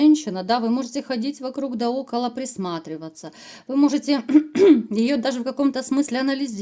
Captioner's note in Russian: откашливается